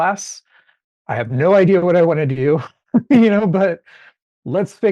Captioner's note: chuckling